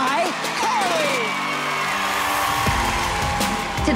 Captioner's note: cheering